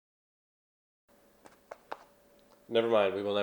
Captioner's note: pat pat pat